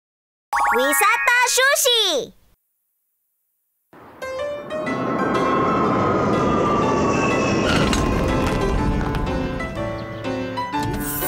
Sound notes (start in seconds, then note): 4.0 jet engine whirring; 4.1 upbeat piano music